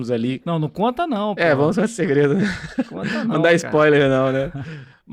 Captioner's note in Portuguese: risadas